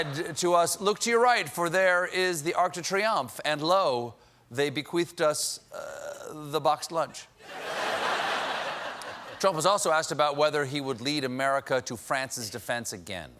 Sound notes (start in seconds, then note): 7.4 laughter